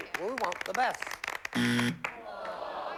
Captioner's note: buzzer